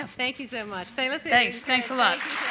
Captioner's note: applause